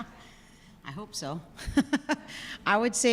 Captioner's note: laughs